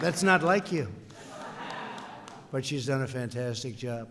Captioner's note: laughter